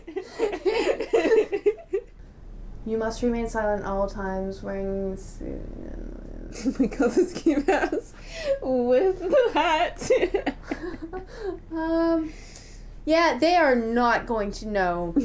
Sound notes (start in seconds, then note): 0.0 laughter; 6.5 laughing